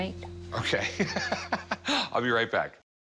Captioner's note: laughs